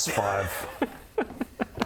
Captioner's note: probability-defying laugh